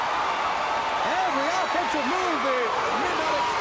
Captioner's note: crowd cheering